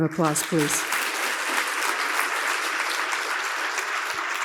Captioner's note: audience applauds